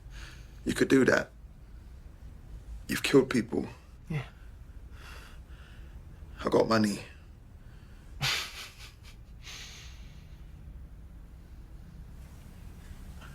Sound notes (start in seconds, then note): 8.2 Robert laughing